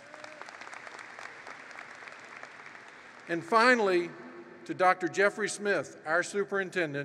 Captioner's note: applause